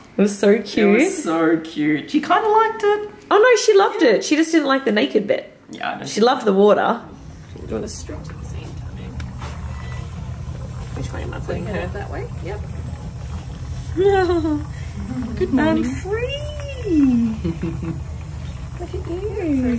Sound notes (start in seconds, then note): 17.0 chuckles